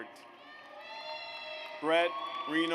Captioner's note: audience cheers